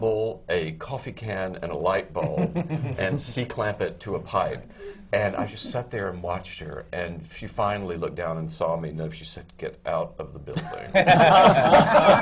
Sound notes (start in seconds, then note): 2.2 laughter from the panel